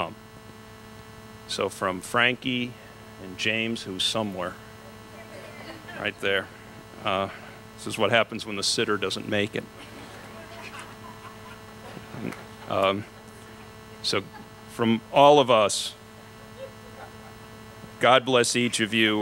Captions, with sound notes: So from Frankie and James, who's somewhere, right there, this is what happens when the sitter doesn't make it. [laughter] So from all of us God bless each of you.